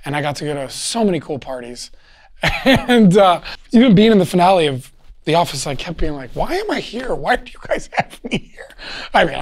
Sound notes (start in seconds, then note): 2.4 laughs